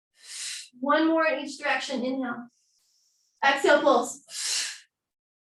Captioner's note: exhaling